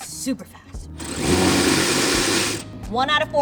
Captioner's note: ratchet whirring